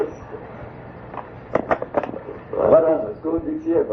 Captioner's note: tape changes